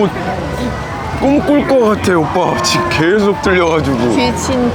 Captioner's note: laughing